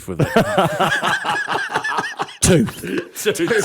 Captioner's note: laughter